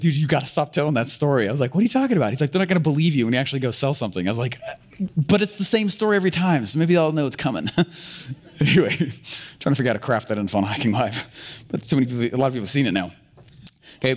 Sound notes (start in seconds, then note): 8.4 laughter